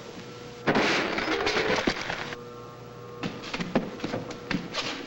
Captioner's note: object clanks